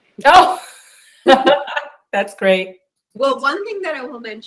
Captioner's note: laughs